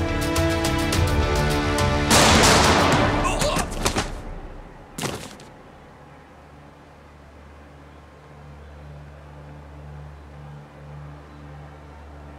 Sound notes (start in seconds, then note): 2.1 gunshots; 3.2 guys moan; 9.8 chants